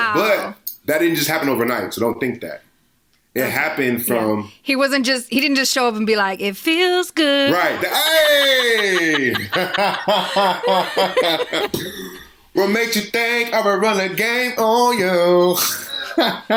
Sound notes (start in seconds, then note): 9.3 both laughing